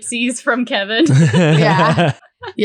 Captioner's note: laughing